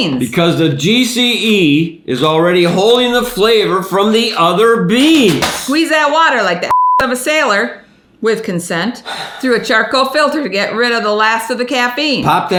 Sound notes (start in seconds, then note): 6.7 beep